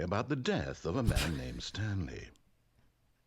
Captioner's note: laugh